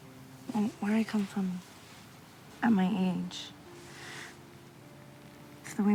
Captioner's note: none